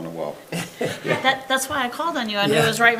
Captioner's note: attendees chuckling